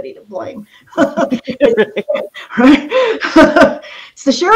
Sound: laughs

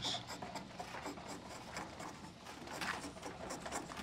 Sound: scraping wood

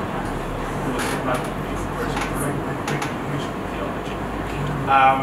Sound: speaks away from mic

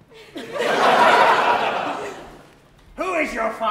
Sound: audience laughs

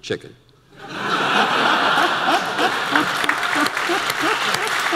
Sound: audience laughter

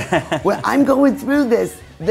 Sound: chuckles

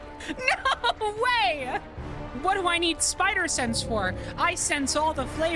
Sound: laughing

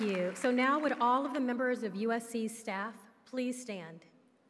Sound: applause

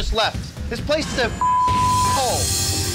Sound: beep

